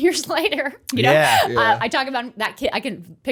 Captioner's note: chuckle